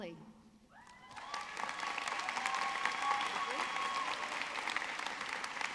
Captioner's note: audience clapping